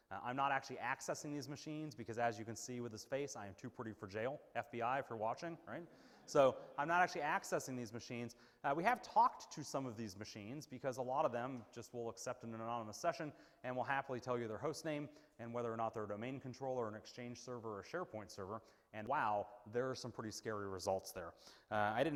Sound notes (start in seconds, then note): 5.9 audience laughing